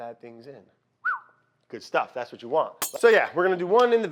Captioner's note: whistles